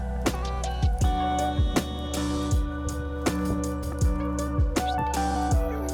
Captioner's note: simple, reverberant music; flame crackles